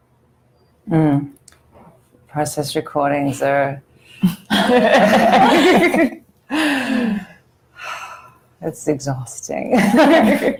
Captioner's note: all laugh